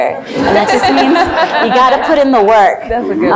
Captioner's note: laughs